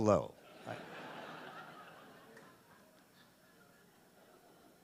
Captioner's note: audience laughing